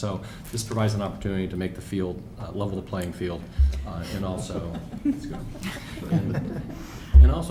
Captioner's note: laughter